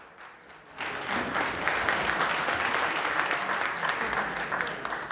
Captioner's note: applause